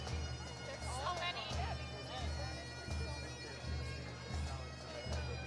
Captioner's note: chatter